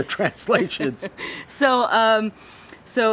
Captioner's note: both laugh